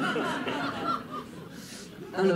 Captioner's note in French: rires